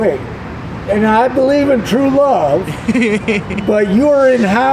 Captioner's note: laughs